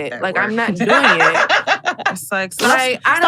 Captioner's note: laughs